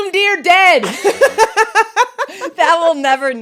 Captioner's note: both laughing